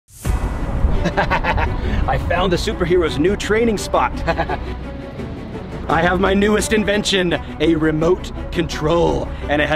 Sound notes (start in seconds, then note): 0.4 suspense music; 1.5 laughs